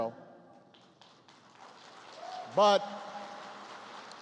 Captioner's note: applause